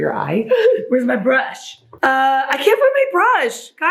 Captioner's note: gasping